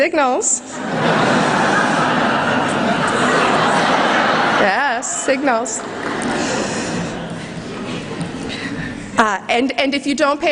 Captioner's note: laughter